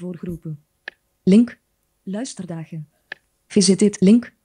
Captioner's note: speaks in foreign language